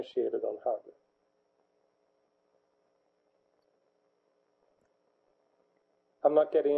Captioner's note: pause